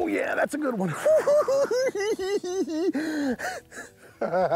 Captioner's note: giggling